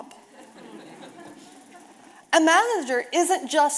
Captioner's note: audience laughing